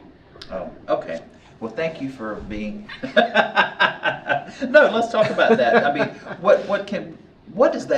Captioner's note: laughter